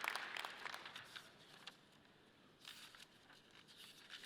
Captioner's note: paper rustling